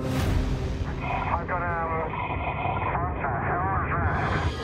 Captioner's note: speaking over radio